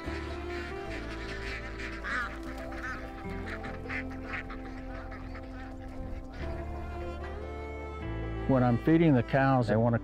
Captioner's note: ducks Quaking